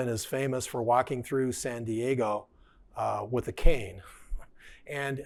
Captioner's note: chuckling